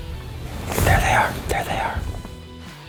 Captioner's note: whispering